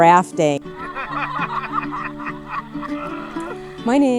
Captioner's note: everyone laughing